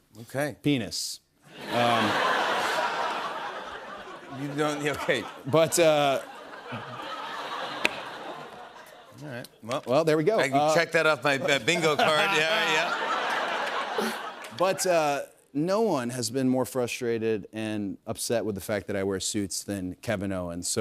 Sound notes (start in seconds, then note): 1.5 laughter; 13.0 laughter